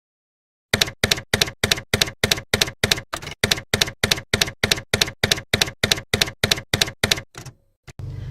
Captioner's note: typewriter keys clacking